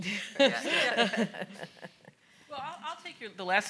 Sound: panel laughs

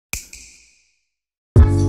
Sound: snap

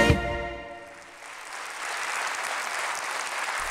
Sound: applause

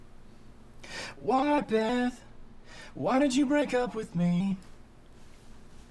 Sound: in robotic voice

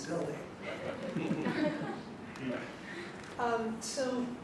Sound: audience laughing

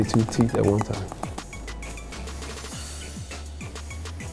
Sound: teeth chatter

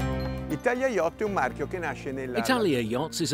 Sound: speaking foreign language

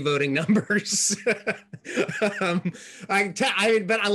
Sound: laughing

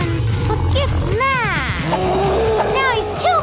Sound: gorilla roaring

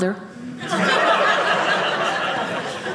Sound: audience laughing

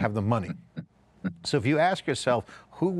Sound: laughs

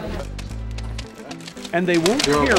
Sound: money snapping taut

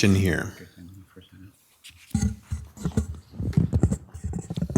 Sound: indistinct chatters

